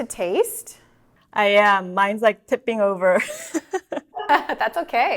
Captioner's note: laughs